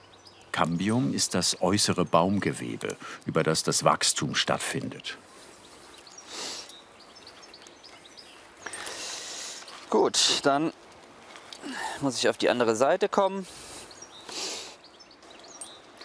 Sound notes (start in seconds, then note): 6.9 birds chirping